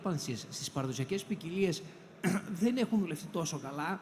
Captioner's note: clears throat